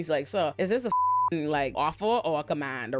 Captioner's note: beep